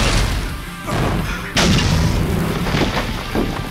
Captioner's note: structure creaking